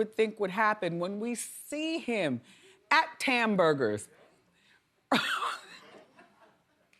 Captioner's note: laughs